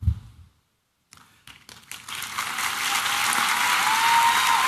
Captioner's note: applause and cheering